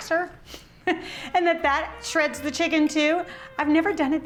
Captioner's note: laughs